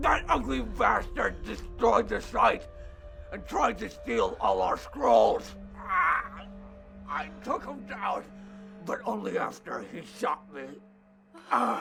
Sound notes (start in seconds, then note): 5.4 groans